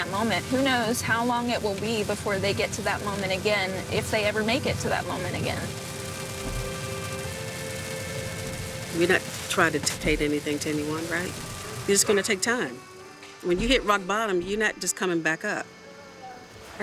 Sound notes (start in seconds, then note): 6.8 rain falling